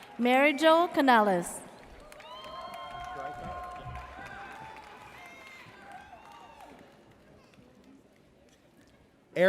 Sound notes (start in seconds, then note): 0.0 audience cheers; 2.0 audience cheers